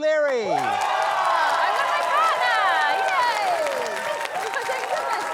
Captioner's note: loud cheering, applause